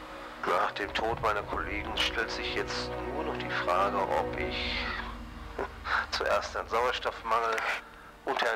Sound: chuckles

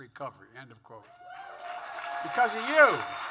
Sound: applause

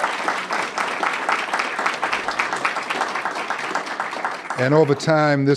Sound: applause

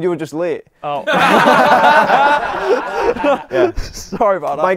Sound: people laughing

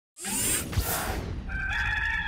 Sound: air whooshes; bird crows

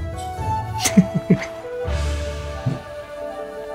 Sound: laughs

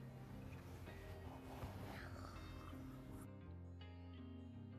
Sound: weird nervous noises

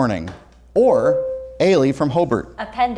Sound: buzzer sounds

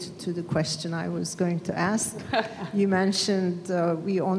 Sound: laughs

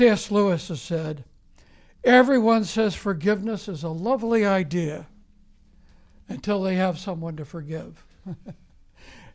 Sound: laughs

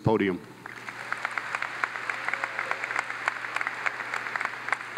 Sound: audience claps

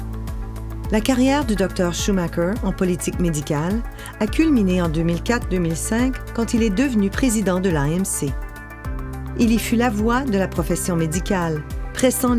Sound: speaking french

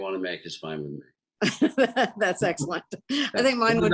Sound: laughs

